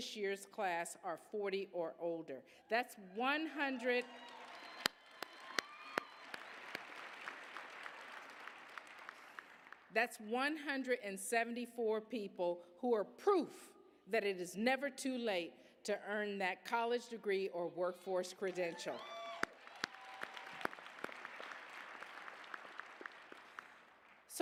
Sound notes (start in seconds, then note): 3.7 applause, cheers; 19.0 applause